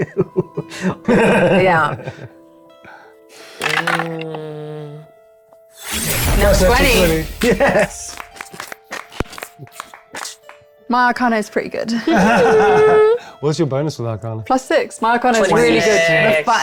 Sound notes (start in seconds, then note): 0.2 chuckles; 3.6 dice rattling; 8.0 players applauding; 12.0 laughing